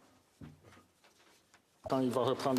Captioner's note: speaking French